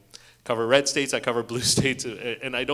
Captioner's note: chuckles